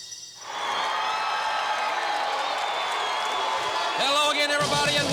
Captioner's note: crowd cheering